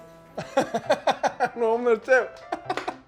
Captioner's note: laughs